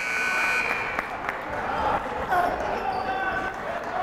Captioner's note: buzzer blaring; yelling